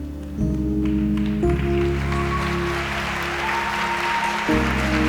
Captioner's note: audience applauds